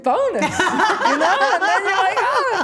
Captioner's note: everyone laughing